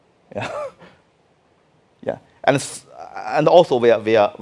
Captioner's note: laughing